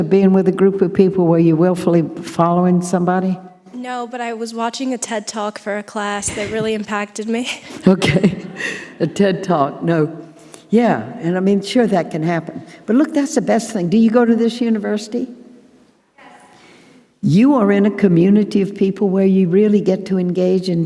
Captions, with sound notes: of being with a group of people where you're willfully following somebody? - No, but I was watching a TED Talk for a class that really impacted me. (chuckling) - Okay, a TED Talk. No, yeah. And I mean, sure, that can happen. But look, that's the best thing. Do you go to this university? - Yes. - You are in a community of people where you really get to engage